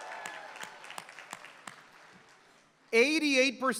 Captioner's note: applause